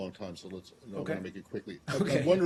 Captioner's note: laughter